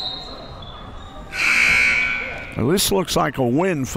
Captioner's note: whistle; buzzzer